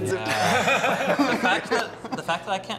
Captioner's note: all chuckling